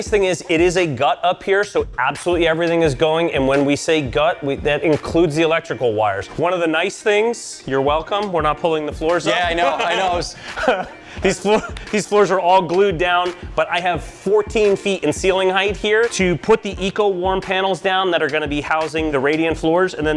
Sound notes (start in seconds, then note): 9.2 laughs